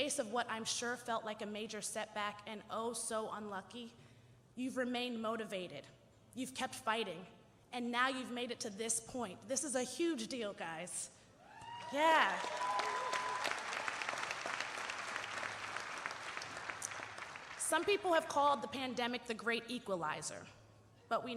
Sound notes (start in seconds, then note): 13.0 audience cheering and applauding